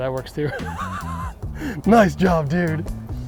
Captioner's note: laughing